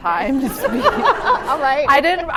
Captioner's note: laughter